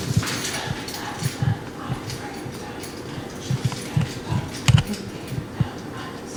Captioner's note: whispers